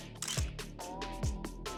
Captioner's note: casual music continues; camera clicks